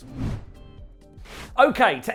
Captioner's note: transition whooshing